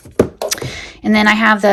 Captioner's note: item thudding